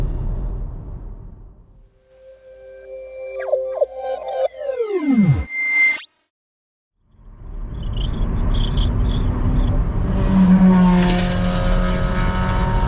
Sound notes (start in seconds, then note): 2.0 logo sting with sound effects; 9.2 loud exhaust noise from fossil-fool driver